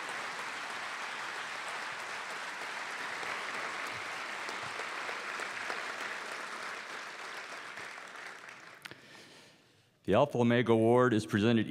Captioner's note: cheers and applause